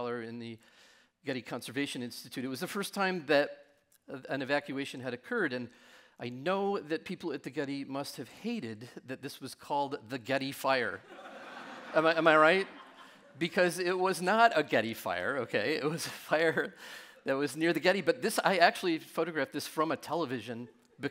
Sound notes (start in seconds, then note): 11.1 audience laughing